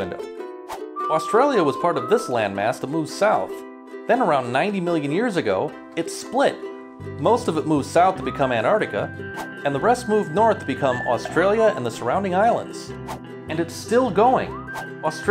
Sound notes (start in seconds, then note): none